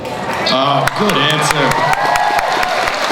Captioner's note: cheering; voiceover